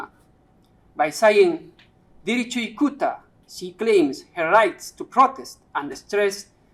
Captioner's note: speaking quechua